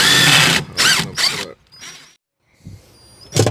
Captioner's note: electric drill